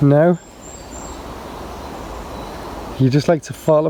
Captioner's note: birds chirping